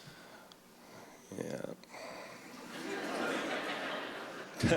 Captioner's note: soft laughter